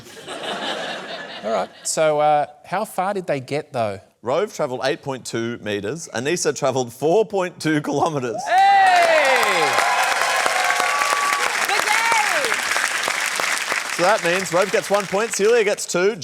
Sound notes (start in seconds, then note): 0.0 laughter; 8.4 cheering, applause